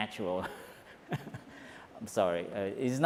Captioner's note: laughs